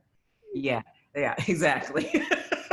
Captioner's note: laughs